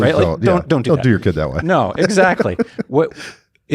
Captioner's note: laughs